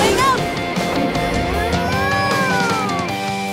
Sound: mooing

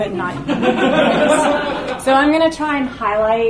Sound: audience laughs

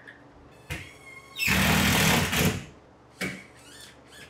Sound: drill whining

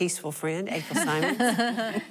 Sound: laughing

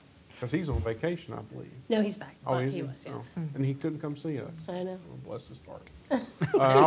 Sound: laughter

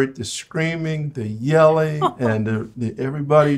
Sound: laughs

